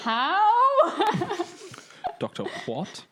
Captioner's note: laughing